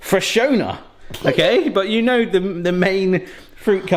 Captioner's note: chuckles